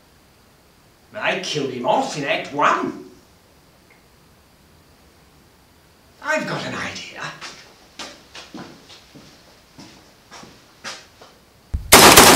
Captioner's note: gun shots